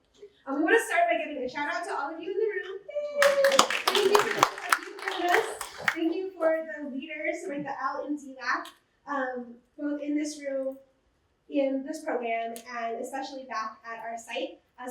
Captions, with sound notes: And we want to start by giving a shout out to all of you in the room. [APPLAUSE] Thank you [LAUGHTER] us. Thank you for the leaders with the [MUFFLED VOICE] both in this room, in this program, and especially back at our site.